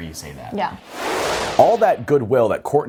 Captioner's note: frame whooshing